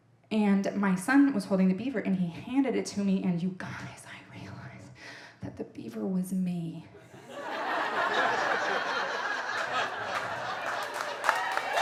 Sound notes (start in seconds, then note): 7.0 audience laughing